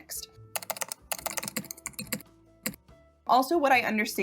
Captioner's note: typewriter typing